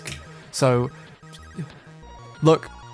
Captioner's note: stutters, embarrassed